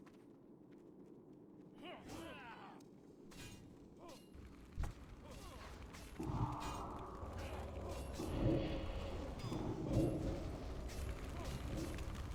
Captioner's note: grunting